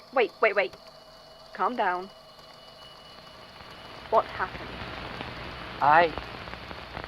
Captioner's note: Static